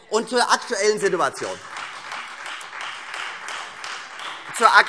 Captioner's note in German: Beifall Freie Demokraten